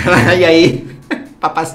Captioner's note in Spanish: risa